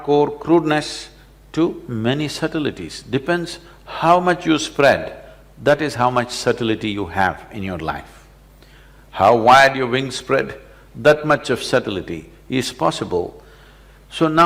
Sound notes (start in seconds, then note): none